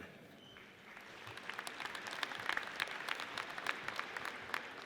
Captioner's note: audience applauds